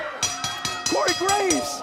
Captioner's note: bell ringing